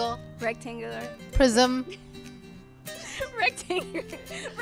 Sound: laughing

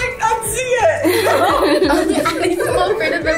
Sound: girls laugh

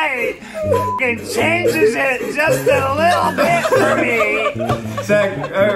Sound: beep

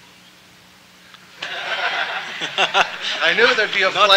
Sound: laughter

